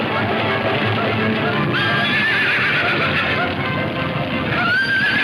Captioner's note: horses whinnying